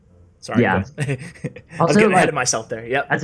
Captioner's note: laughs